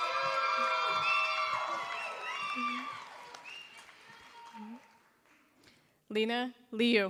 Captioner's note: applause